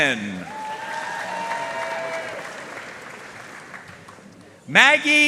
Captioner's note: audience cheering and applauding